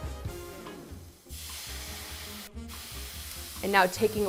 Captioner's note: pan sizzling